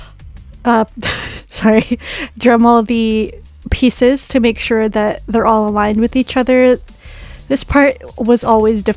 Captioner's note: laughs